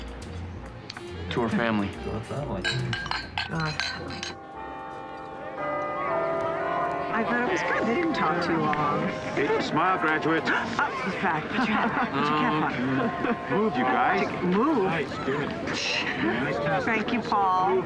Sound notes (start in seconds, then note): 4.3 bell tolls; 9.5 gasps